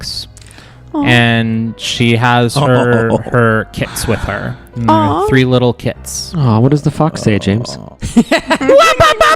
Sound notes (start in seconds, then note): 6.3 groans; 8.0 laughs